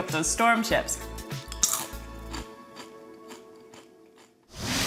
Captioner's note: crunchy sound